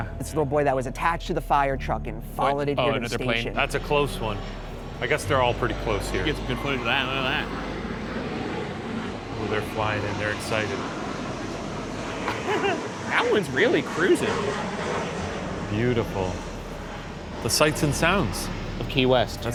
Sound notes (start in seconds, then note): 7.4 plane whooshing; 11.0 plane whooshing; 12.2 laughs; 14.5 plane whooshing